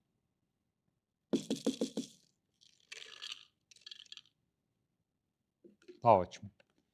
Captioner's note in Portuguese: ruído das pedrinhas